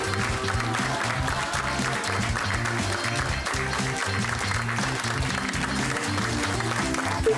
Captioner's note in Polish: Aplauz